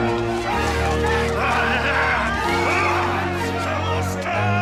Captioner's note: growls